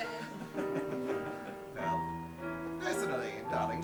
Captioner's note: audience laughs